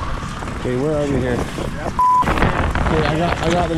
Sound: beep

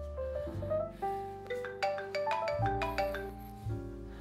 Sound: phone ringing

